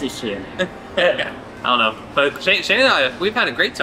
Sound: laugh

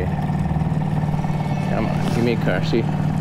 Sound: boat motor hums

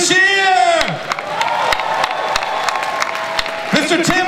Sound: audience cheering

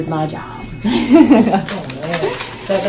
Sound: laughs

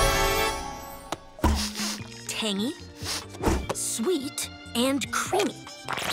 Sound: sniffing

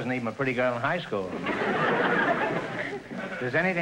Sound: audience laughter

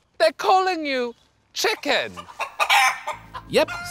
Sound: chicken clucks

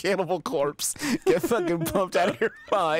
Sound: laughing

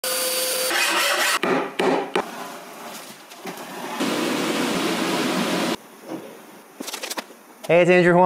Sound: various tool and construction noises

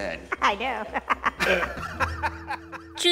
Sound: laughter

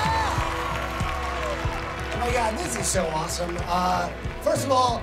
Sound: crowd cheering

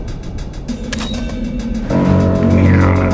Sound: Machina Beep

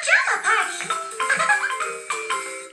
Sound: giggles

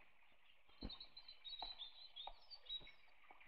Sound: birds Chirping

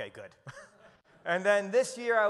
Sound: chuckles

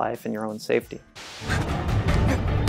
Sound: dramatic music; static noise

